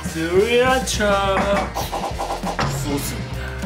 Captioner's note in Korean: 흔드는 소리